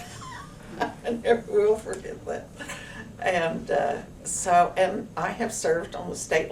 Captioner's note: laughs